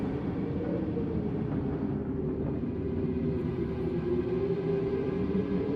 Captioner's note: wind howls; eerie music